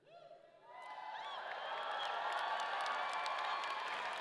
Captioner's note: audience cheering